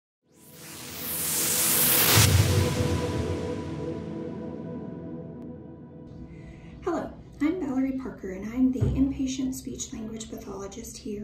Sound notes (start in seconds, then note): 0.5 energetic whooshing